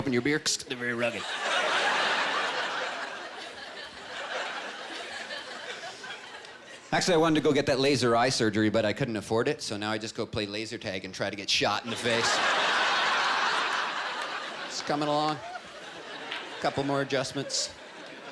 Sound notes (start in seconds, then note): 11.8 laughter